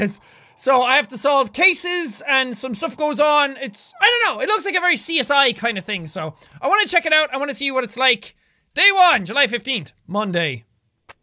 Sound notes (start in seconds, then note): none